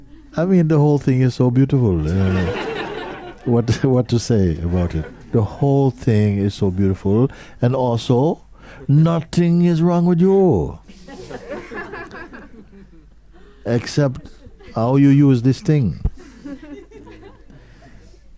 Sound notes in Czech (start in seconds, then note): 2.2 smích; 10.9 smích; 16.1 smích